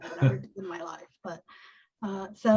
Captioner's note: laughs